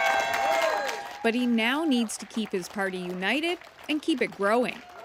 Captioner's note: applause